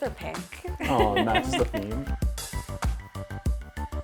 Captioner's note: laughing; upbeat music